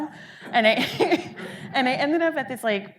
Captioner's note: audience laughing